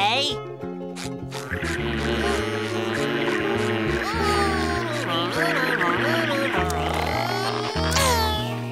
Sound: buzzing

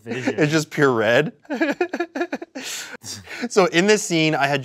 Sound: laughs

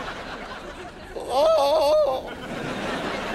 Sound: groaning

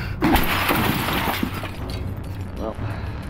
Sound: glass shattering

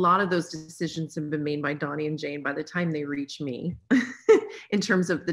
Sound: laughs

